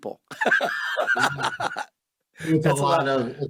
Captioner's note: laughs